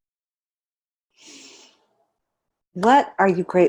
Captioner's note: inhales deeply